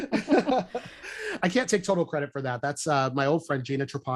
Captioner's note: laughter